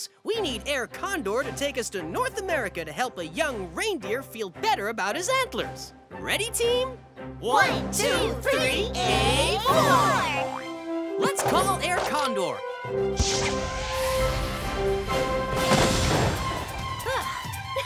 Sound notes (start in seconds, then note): 15.5 blasts